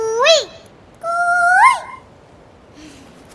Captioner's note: mimicking cuckoo's voice